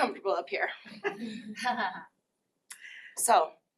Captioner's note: laughter